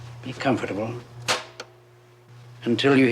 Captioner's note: stop button clicks